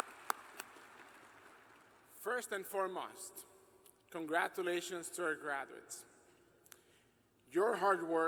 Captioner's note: applause